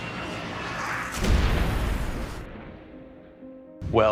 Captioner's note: plane explodes; voiceover